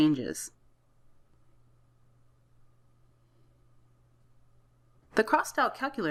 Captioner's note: silence